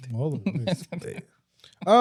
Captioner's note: laughing